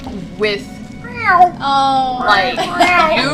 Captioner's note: meows; laughter